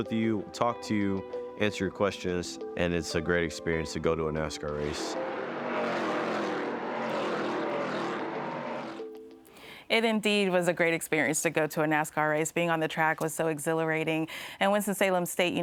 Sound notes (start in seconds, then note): 5.0 car engines roaring